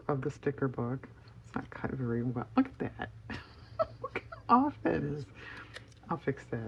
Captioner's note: laughs